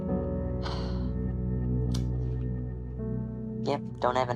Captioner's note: patient sighs